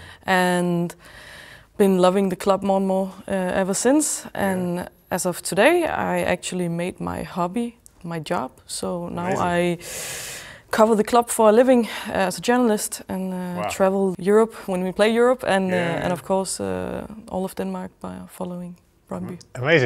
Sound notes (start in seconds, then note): none